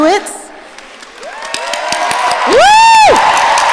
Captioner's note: audience applauding and cheering